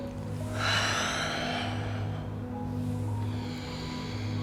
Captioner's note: heavy breathing